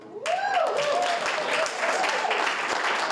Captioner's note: cheering